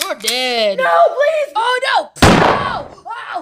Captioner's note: gun cocks; gunshot